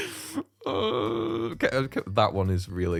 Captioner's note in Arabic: أصوات اليأس